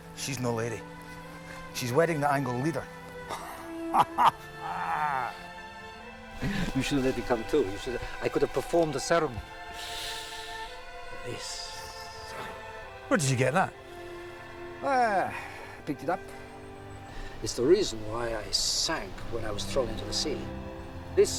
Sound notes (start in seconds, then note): 3.2 laughing